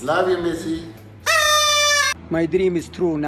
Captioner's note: horn blaring